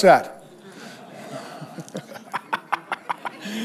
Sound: all laugh

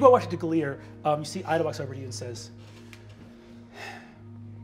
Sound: sighing

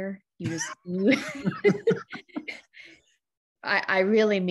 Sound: both laugh

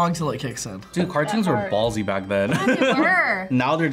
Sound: laughs

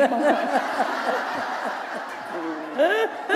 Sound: laughter

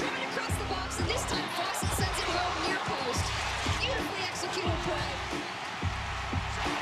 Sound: cheering; tv announcer

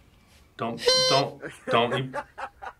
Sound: horn honks

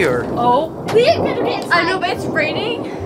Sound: thunder rumbles

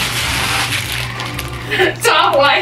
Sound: plastic crinkling

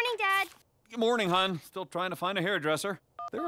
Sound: phone ringing

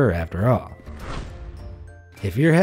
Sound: air whooshing

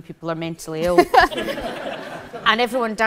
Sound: audience laughs

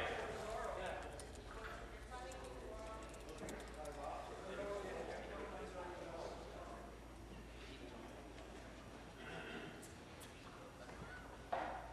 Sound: voice trailing

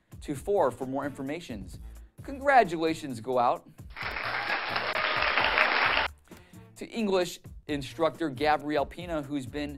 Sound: cheer and Applause

